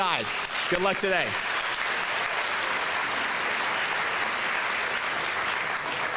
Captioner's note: applause